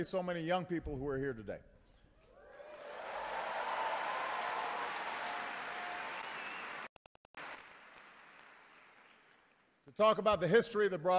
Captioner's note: applause